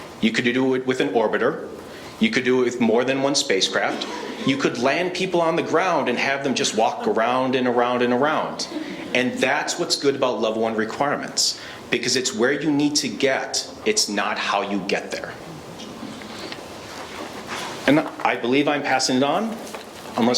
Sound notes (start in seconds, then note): 8.6 laughing